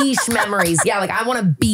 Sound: laughing

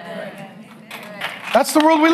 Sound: audience clapping

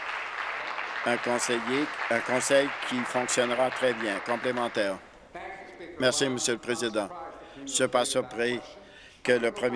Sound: applause

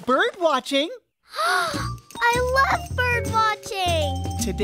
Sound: gasp

